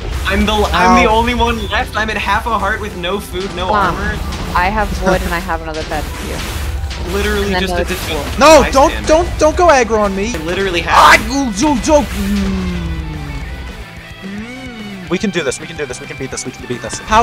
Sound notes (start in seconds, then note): 10.6 panic noises